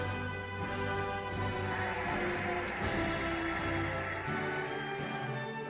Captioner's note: cheering and applauding